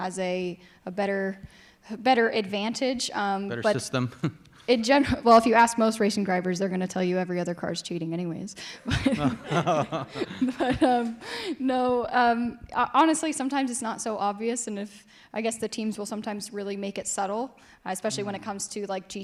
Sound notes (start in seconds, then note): 8.9 laughing